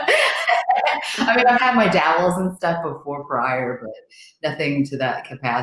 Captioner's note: laughs